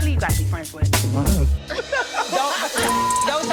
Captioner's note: laughs; beep